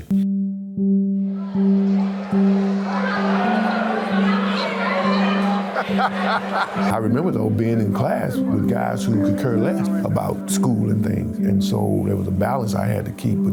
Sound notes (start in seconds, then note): 0.2 soft music; 2.0 students chattering; 4.8 laughs